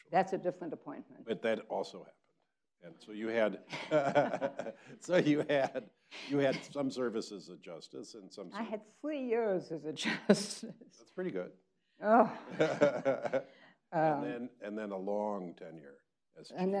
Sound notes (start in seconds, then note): 3.6 both laughing; 12.2 people laughing